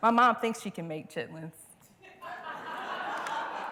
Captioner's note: laughter